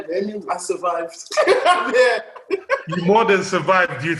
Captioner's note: laughs